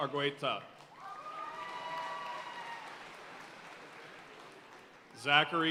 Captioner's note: audience cheering and applauding